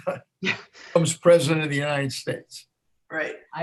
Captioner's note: laughs